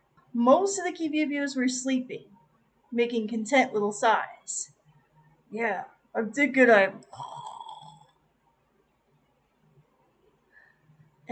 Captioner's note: snores